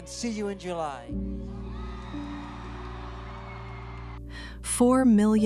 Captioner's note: crowd cheers